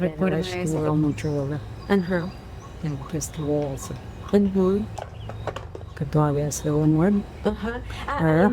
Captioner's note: speaking spanish